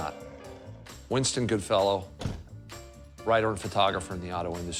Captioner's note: door shuts